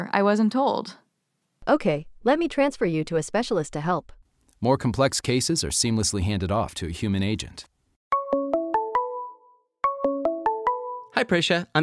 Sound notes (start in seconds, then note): 7.7 phone ringing